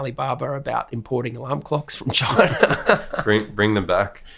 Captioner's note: chuckles